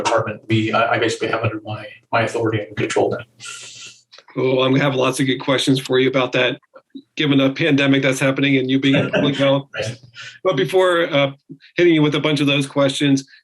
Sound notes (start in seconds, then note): 8.8 chuckles